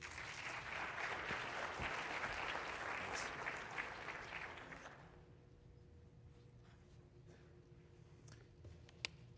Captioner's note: applause